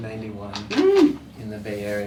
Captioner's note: exclaims